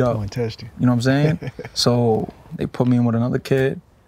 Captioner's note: Andre chuckling